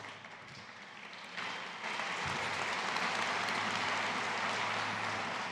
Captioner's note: audience applauding